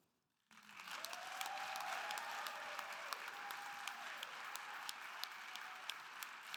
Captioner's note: audience applauding and cheering